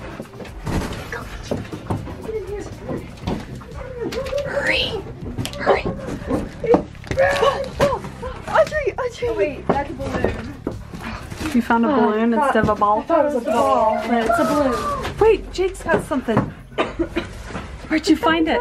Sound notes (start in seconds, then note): 5.4 whispers